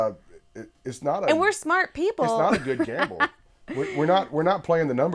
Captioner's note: laughter